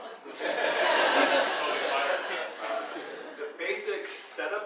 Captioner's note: audience laughing